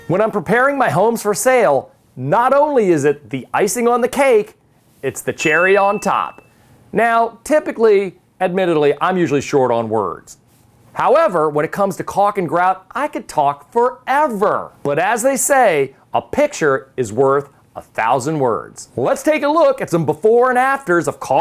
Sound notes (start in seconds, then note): 5.3 bell dings